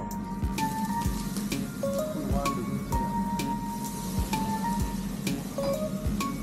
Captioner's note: listen to the sizzling sound of the yakiniku